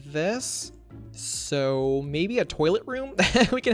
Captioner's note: laughs